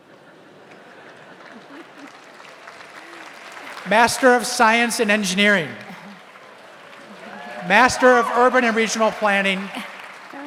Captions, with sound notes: (audience laughs) (audience applauds) Master of Science and Engineering. (audience cheers) Master of Urban and Regional Planning.